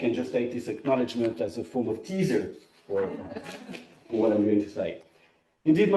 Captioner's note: laughter